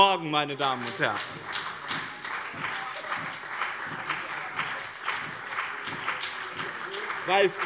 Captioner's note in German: Beifall bei dem BÜNDNIS 90/DIE GRÜNEN und der CDU